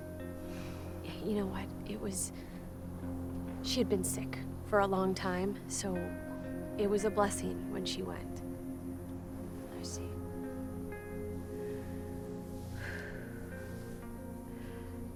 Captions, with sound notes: You know what, it was, she had been sick, for a long time. So, it was a blessing when she went. - I see. (sighs)